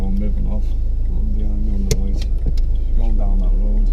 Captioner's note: indicator clicking